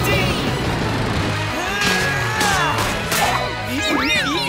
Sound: grunting

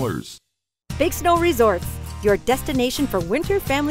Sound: voiceover

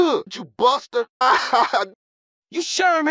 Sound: laughs

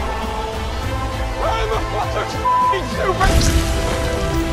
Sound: beeping

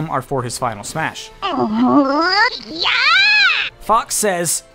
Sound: Kirby yelling

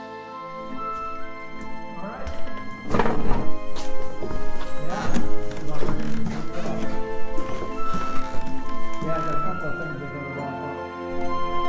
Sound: rustling, doors creaking, murmuring people

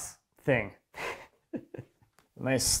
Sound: laughing

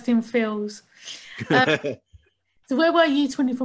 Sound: laughs

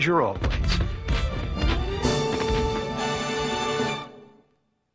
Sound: fireworks exploding

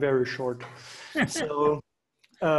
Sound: laughter

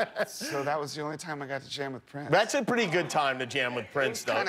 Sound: laughter

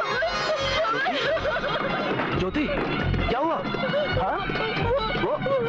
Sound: sobbing

